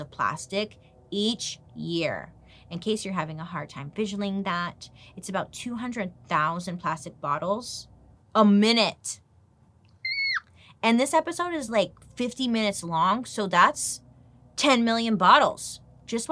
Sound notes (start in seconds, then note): 9.3 squeaks